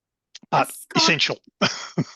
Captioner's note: laughs